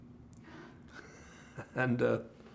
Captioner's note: laughing